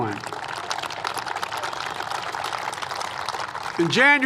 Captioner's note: applause